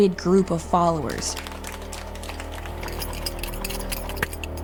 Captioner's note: hands clapping